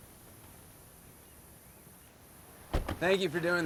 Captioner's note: birds chirping